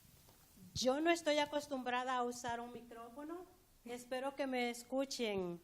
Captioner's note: speaking spanish